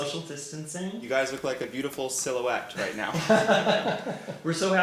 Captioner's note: laughter